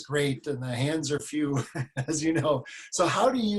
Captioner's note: laughs